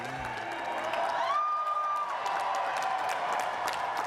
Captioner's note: cheers and applause